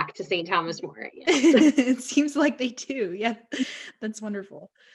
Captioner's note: both laughing